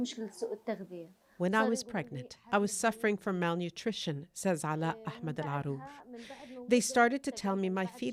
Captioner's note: speaking Alternate Language